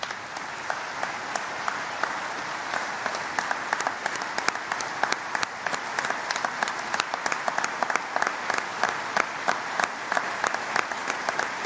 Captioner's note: applause